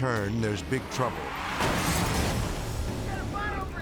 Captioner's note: car crashes